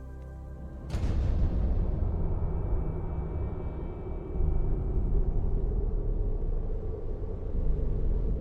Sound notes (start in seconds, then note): 0.0 dramatic music; 2.1 wind howling